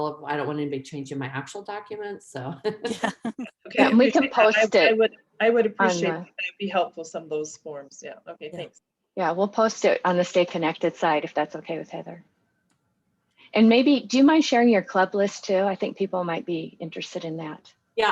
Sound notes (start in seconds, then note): 2.7 laughing